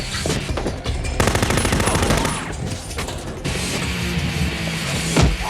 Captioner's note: machine gun firing